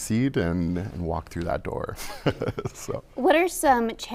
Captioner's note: chuckles